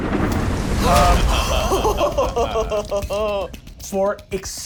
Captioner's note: laughs